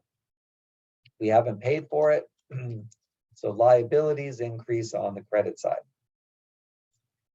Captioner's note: cough